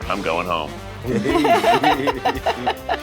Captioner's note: laughs